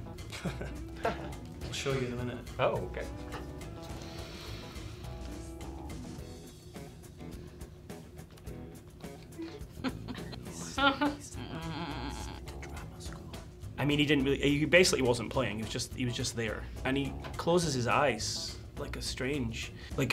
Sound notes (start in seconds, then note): 0.2 chuckling; 10.7 whispering